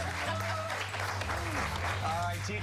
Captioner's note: applause